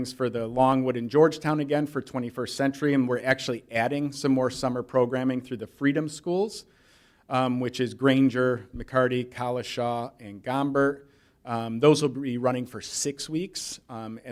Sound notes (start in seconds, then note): none